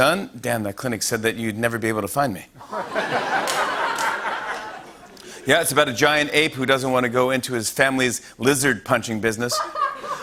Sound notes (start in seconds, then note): 2.6 laughter